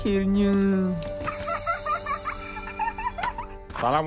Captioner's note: giggles